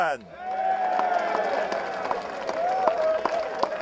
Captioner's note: crowd cheering; applause